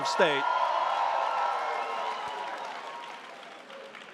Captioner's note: audience cheers